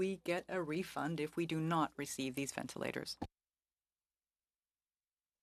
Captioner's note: speaking French